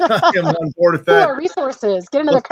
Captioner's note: laughs